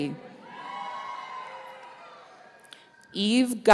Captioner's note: audience cheering